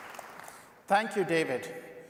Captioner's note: applause